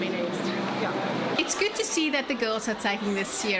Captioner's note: narrating